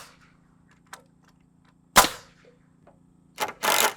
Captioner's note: nail gun shooting